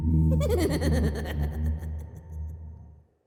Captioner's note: evil laugh